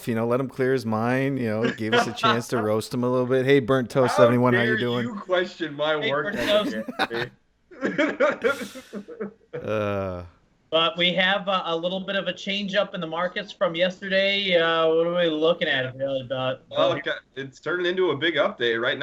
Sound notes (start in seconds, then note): 6.3 laughs